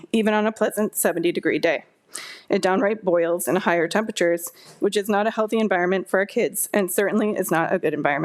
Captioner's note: none